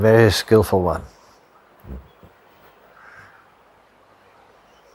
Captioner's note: birds chirping